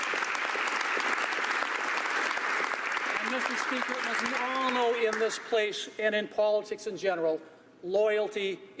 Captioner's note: applause